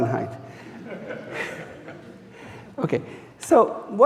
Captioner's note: audience chuckling